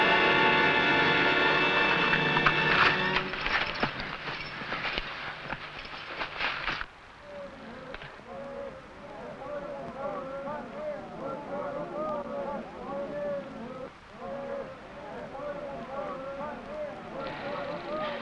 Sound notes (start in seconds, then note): 8.1 men shouting